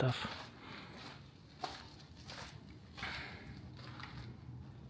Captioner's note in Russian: шаги